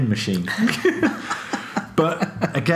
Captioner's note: laughing